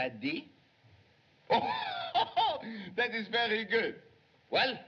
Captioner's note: laughs